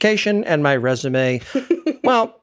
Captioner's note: laugh